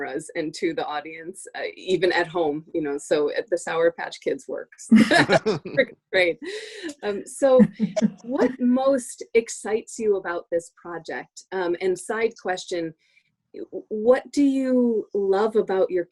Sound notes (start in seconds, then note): 6.6 laughter